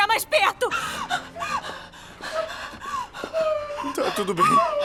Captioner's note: panting, sobbing